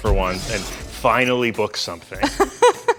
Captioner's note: laughs